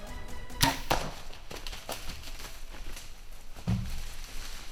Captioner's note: arrow shoots